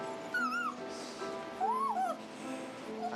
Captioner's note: whines